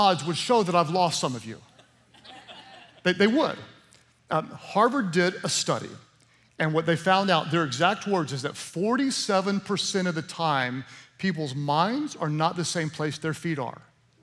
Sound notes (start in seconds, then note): 1.7 laughter